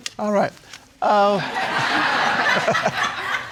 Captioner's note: audience laughing